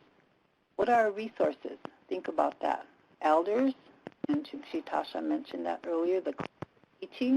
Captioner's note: native language spoken